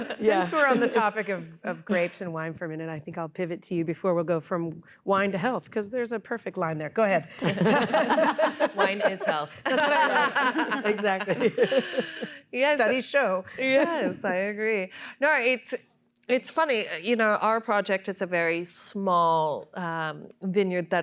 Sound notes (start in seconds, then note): 7.4 laughter